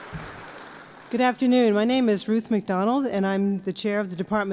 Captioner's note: applause